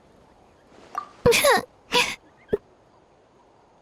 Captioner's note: tearful whimper